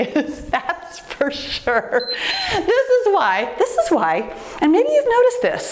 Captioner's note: timer beeps